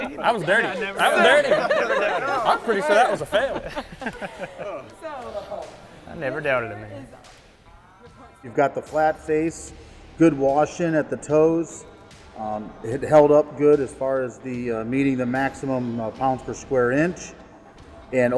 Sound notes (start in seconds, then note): 1.7 laughs; 4.0 laughs